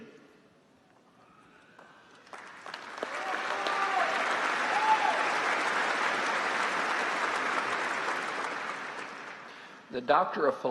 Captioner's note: applause